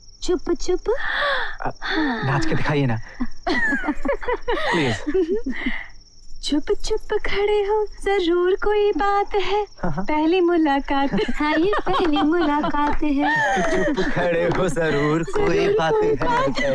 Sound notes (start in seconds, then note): 3.4 laughs; 10.9 laughs